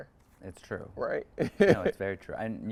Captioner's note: chuckles